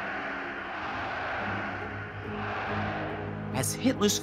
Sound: crowd roaring and chanting

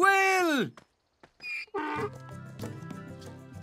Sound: hee-haw

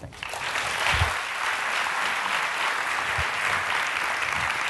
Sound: audience clapping

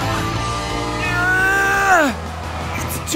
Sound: straining

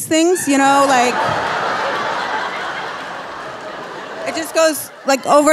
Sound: audience laughing

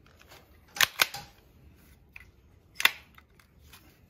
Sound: gun clanging

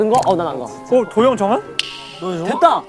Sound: disgusted

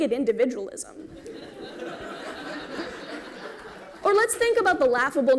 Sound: laughter

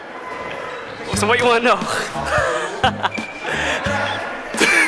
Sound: laughing

